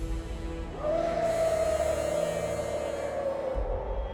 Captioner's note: Dalton growling